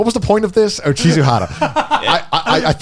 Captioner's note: laughs